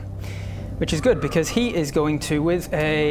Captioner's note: an airy sound blows